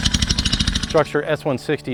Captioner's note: drill whirling